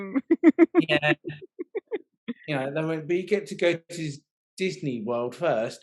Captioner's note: laughing